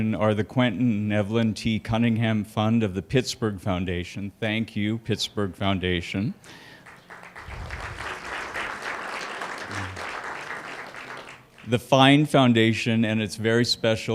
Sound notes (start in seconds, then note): 6.7 applause